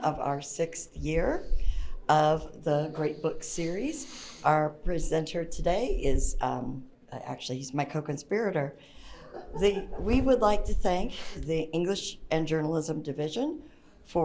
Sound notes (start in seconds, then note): 9.2 audience member laughs